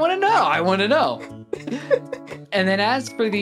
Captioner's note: laughing